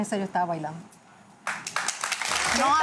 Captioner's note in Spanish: Aplausos